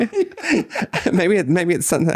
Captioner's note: laughing